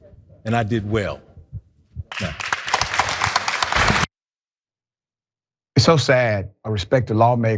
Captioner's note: applause